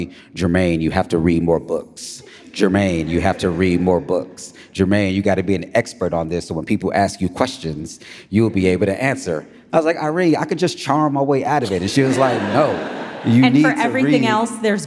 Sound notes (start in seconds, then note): 11.6 audience laughs